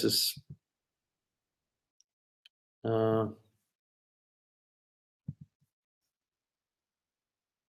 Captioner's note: pause